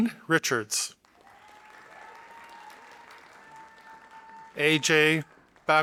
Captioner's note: audience applauding